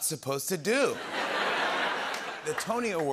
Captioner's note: laughter and applause